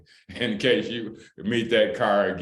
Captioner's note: laughter